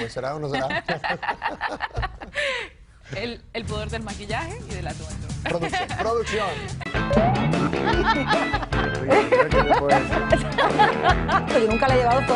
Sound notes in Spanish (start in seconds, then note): 5.4 risas